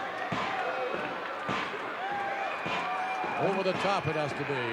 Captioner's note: audience cheering